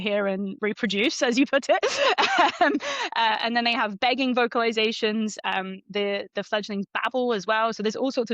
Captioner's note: laughs